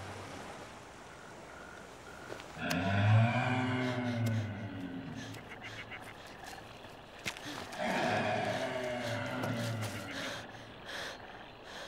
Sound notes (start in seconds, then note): 2.6 large animal bellowing; 7.2 gasping